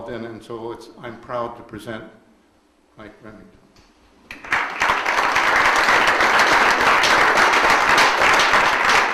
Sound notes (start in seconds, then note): 4.3 audience applauds